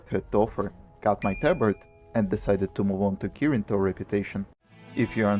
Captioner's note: ding ding ding